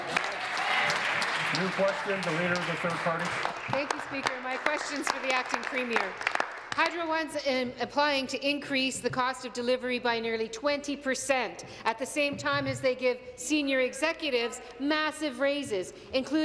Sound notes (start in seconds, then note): 3.7 applause